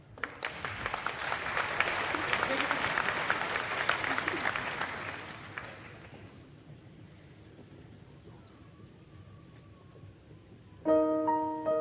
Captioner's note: applause